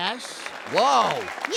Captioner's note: audience applauds